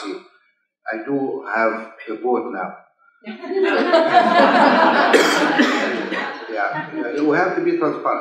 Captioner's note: laughs